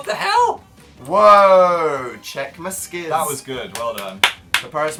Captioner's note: applauds